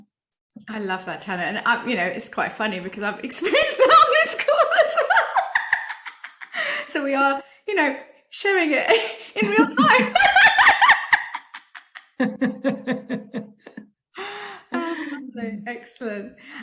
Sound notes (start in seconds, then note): 5.5 says laughing